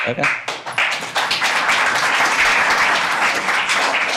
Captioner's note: audience applauding